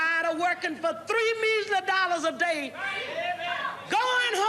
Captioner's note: audience whooping